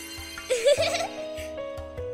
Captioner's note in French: rire